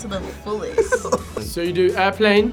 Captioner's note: laughs